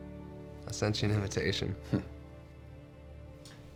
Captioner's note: chuckles